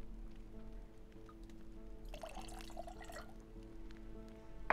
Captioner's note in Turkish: Sıvı dökülme sesi